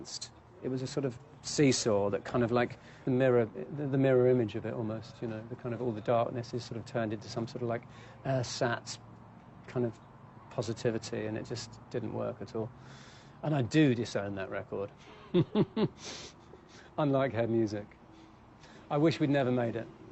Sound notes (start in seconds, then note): 15.0 chuckles